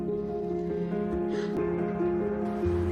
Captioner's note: sighing